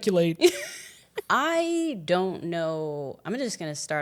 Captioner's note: chuckles